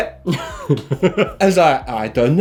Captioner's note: laughter